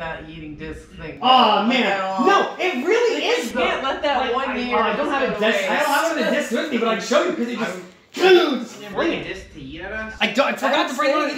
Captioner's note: general chaos about discs in background